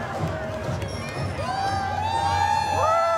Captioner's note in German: Jubel